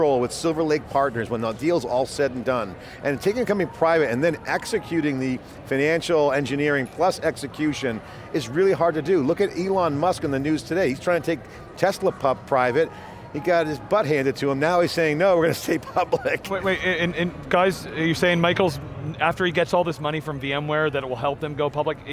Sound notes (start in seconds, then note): 15.6 laughing